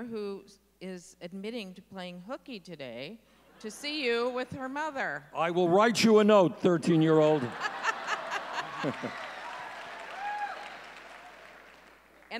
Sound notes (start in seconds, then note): 6.9 audience laughing